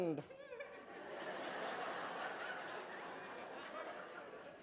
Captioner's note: laughter